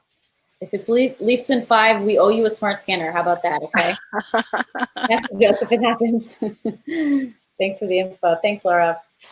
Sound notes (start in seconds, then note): 3.7 laughing; 6.9 laughs